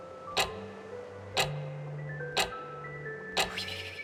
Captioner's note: clock ticking